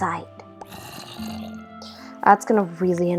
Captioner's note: very loud in-game zombie sound